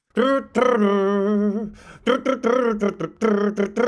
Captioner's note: humming